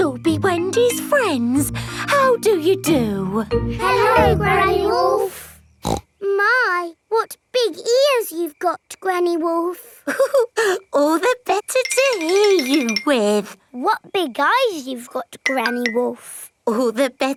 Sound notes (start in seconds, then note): 5.8 snorts; 10.1 chuckles